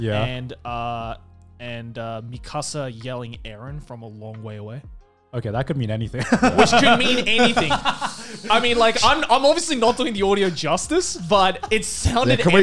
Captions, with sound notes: and Mikasa yelling Eren from a long way away. - Okay, that could mean anything (laughs) - Was could mean anything, I mean like, I'm obviously not doing the audio justice, but sound it epic.